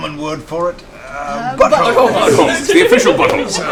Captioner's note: Tiberius voice